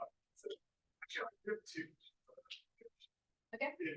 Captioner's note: audio distorts